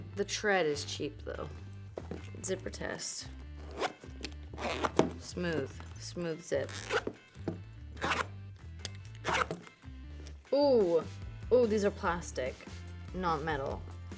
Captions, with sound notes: The tread is cheap, though. Zipper test. (zipper zipping) Smooth, smooth zip. (zipper zipping) Ooh. Ooh, these are plastic, not metal.